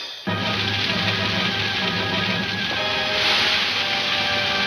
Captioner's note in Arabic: النار تشتعل بقوة